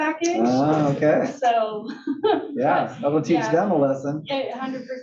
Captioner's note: laugh